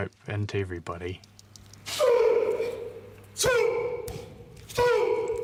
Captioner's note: grunting